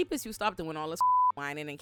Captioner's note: beep